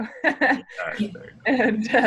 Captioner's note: laughs